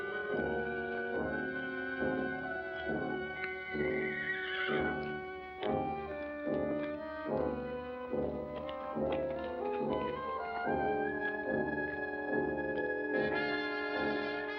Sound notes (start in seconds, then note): 3.1 horse neighing in distance; 5.0 foreboding music